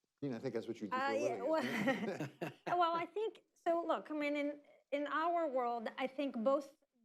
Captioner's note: laughter